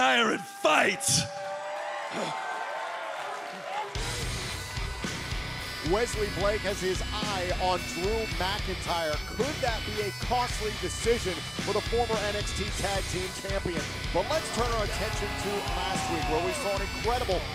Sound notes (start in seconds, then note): 2.7 cheers and applause